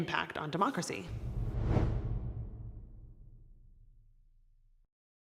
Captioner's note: air whooshing